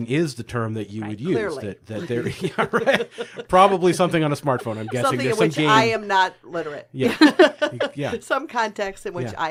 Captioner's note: laughs; laughing